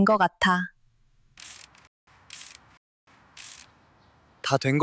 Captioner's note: pumping sound